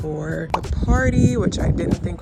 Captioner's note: bubble popping